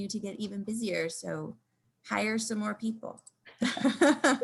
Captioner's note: laughing